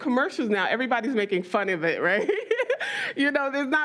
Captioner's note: laughs